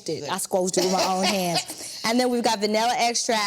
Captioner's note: Vernee laughs